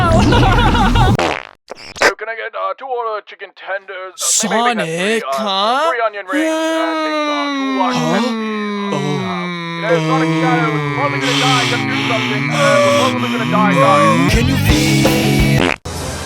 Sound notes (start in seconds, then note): 1.1 pop; 11.1 heavy breathing; 15.5 poof